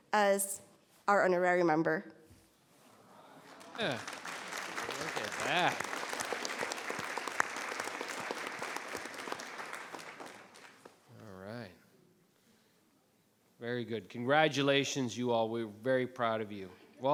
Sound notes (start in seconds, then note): 3.5 members clapping